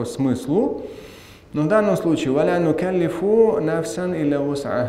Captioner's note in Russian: говорит на арабском